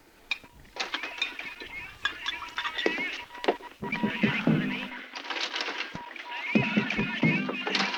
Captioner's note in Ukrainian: голоси з радіо